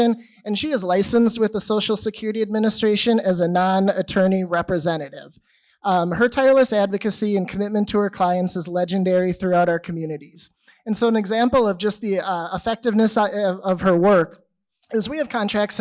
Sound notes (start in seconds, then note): none